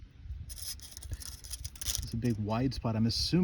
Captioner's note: tape measure clatters